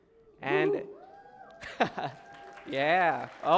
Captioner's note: cheering & applause